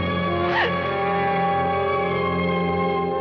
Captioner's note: gasps